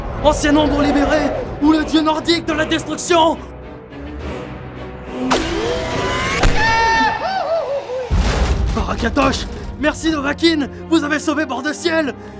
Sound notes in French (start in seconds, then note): 3.5 Musique badass; 6.4 cri de Dingo; 6.4 impact; 8.0 TRES LOURDE chute